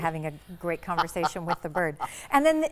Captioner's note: laughing